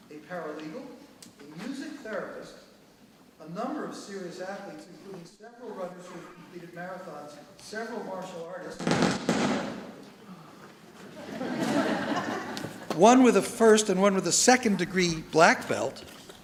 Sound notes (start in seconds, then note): 8.6 microphone static; 11.0 audience laughs